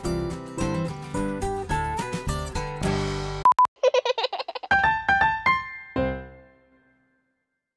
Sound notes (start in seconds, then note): 3.8 baby giggles; 4.7 piano plays